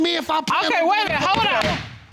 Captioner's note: gavel banging